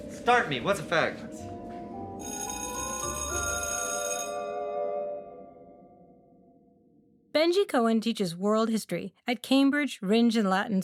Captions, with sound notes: Start me, what’s a fact? [school bell rings] Benji Cohen teaches world history at Cambridge Rindge and Latin